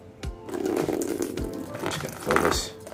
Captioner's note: slurping